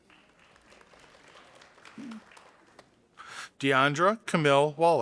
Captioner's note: audience applauding